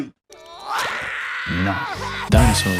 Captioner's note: cries